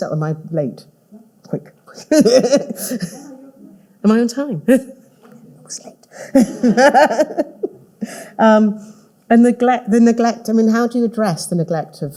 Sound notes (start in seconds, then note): 6.2 all laughing